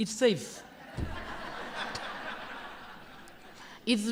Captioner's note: laughter